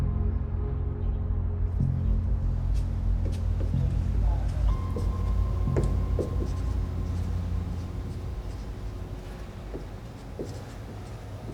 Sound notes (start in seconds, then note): 5.2 marker tapping